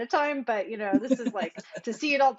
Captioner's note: laughs